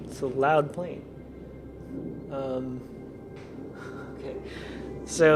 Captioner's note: plane flying overhead